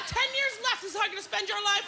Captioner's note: laughter